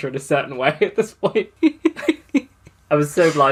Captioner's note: laughs